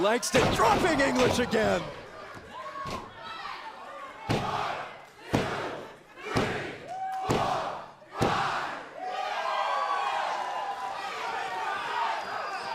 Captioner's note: crowd cheering